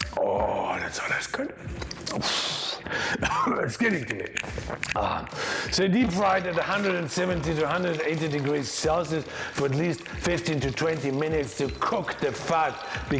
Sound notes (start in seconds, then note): 2.1 exhales and coughs; 3.8 gulps